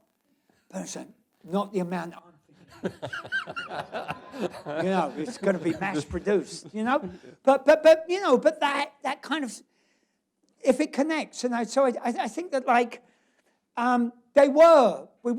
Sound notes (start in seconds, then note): 2.5 laughs; 2.5 laughter